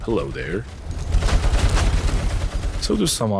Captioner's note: drones getting shot to bits